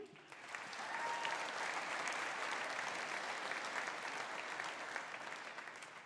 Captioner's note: audience applauding; audience cheering